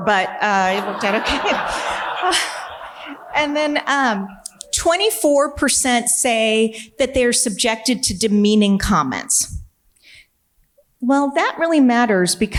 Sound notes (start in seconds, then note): 1.8 audience laughing